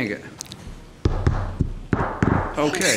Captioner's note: gravel banging